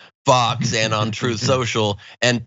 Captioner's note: laugh